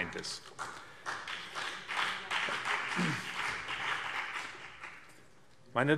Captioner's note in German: Beifall BÜNDNIS 90/DIE GRÜNEN